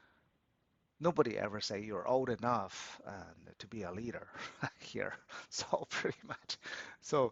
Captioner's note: laughs